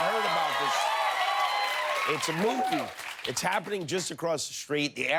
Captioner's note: cheers and applause